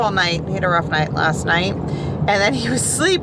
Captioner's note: none